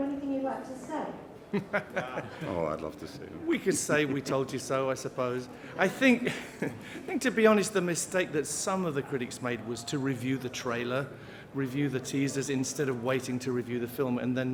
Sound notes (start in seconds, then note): 1.5 laughter; 5.8 laughs